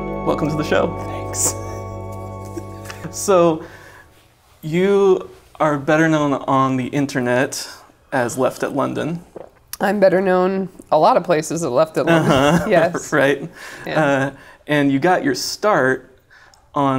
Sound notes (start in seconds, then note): 1.4 laughs; 12.2 laughs